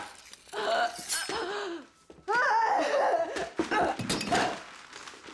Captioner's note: knife ripping flesh; Joan groaning; knife whooshing; Joan groaning; knife clacking on floor